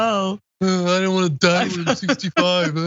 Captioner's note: laugh